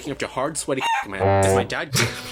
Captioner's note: chicken cluck; Dan laughs